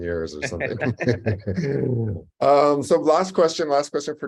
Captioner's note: laugh